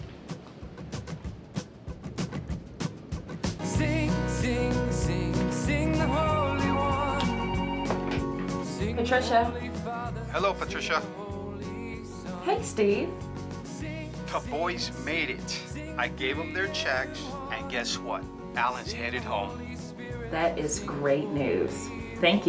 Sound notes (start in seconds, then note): 6.7 phone rings